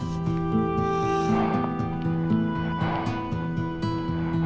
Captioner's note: huffing